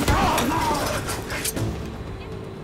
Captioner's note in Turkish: Hançer çekme sesi